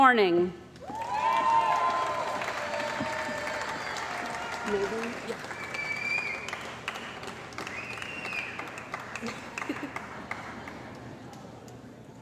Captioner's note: cheering & Applause